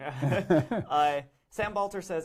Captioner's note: both laugh